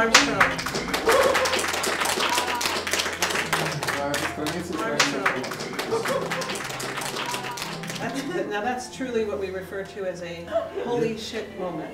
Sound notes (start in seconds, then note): 0.1 applause; 3.5 translator speaking russian